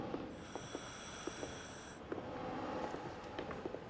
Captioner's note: wheezing